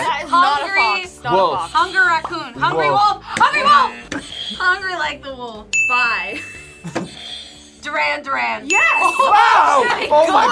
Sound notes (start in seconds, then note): 3.8 buzzer; 6.8 laughs; 8.7 buzzer rings